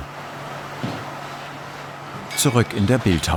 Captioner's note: machine whirring